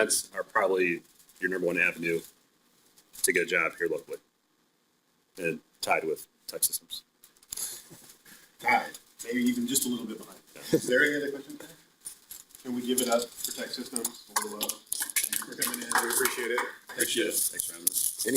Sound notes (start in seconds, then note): 7.7 both chuckling; 14.3 applause